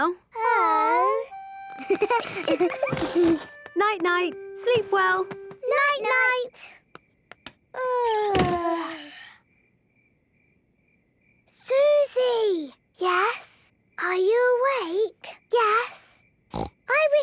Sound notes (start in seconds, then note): 7.5 light clicks; 8.6 both yawning